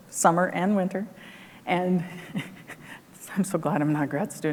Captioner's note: laughs